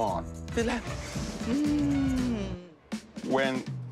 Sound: inhales deeply

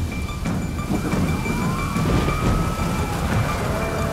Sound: tense music playing; sirens playing; sombre music playing

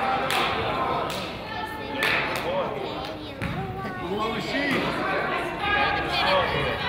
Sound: crowd chatters; person claps

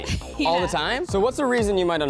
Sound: laughs

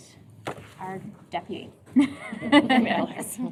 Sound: laughter

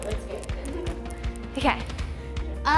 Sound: laughing

